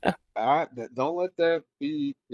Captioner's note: laughs